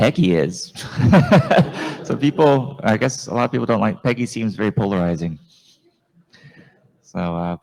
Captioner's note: laughs